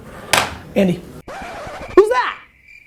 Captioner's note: needle scratch, crickets chirping